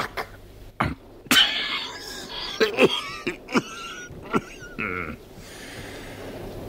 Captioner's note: coughs